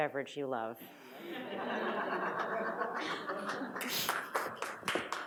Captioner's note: audience laughs; audience applauds